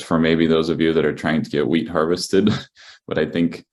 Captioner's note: laughs